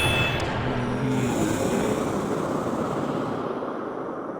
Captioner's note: Paul growling